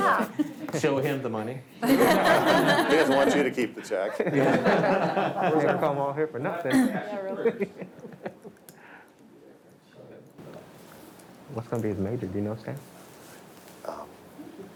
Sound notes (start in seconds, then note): 1.9 all laugh; 6.7 man laughs